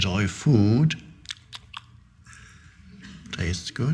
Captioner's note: Eckhart imitating food chewing